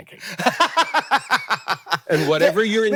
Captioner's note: Hank laughing